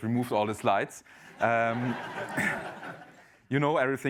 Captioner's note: laughter